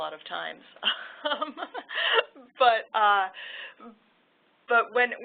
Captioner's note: laughter